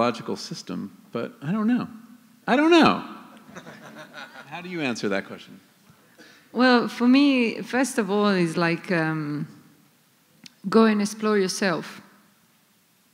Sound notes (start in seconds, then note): 3.4 laughter